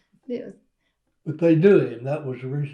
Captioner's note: laughter